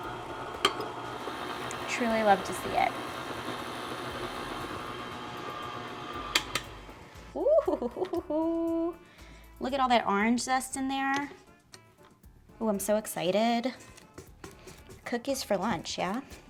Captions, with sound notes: Truly love to see it. (mixer whirring) (mixer clicking) Ooh, hoo, hoo, hoo. Look at all that orange zest in there. (whimsical klezmer music) Ooh, I'm so excited. Cookies for lunch, yeah?